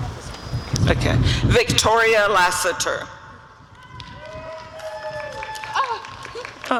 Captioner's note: applause and cheering